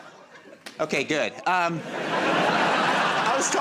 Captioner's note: laughter; laughter